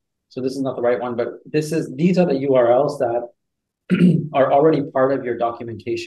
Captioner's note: coughs